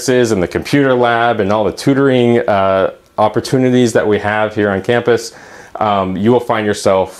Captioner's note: aahh